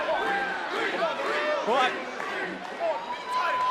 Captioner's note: crowd chants "creed"